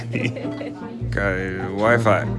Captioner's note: laughing